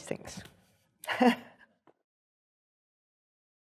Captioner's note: laughs